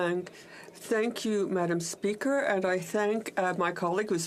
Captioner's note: speaking French